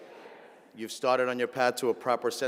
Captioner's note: audience repeats